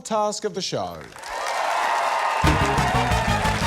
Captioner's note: cheering, applause